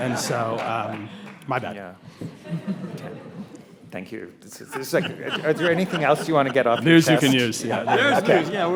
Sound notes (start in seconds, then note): 2.0 audience and panelists chuckle